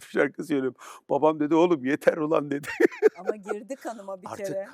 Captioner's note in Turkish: kahkaha